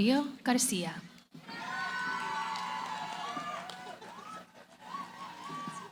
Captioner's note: cheering